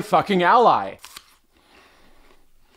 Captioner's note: bites into apple